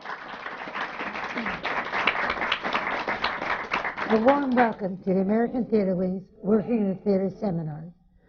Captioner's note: applause